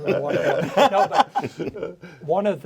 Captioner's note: all laughing